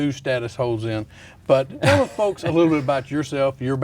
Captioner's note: laughs